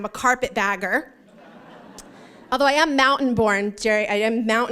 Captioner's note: laughter